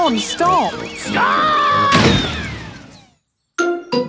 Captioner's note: thuds